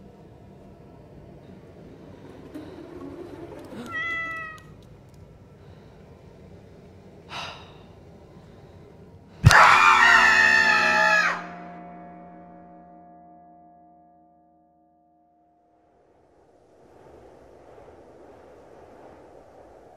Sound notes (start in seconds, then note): 9.4 screams; 15.3 wind